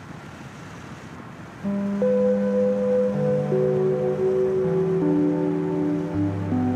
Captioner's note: traffic humming; gentle music